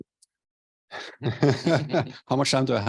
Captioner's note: laughter